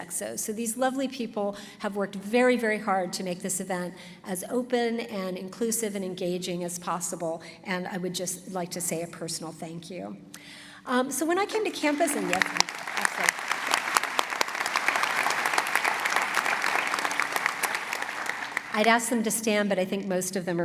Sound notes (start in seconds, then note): 11.4 applause